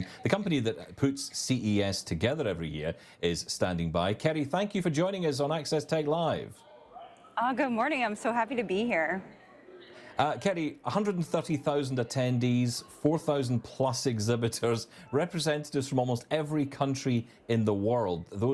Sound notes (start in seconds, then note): 7.4 attendees chattering